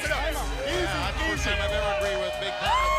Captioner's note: crowd chatter